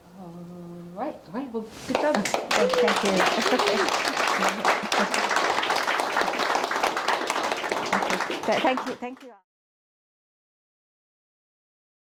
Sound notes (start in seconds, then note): 3.0 chuckles; 3.5 audience clapping